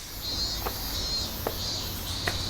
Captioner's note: footsteps on stairs